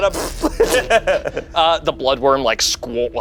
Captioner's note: makes splat noise